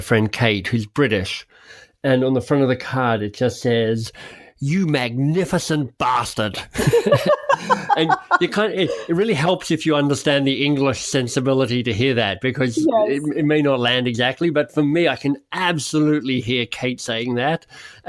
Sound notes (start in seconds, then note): 6.8 laughs